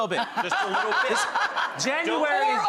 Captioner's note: laughter